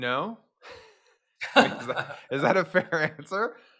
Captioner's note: laugh softly